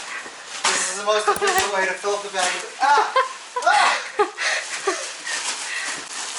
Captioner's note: laughter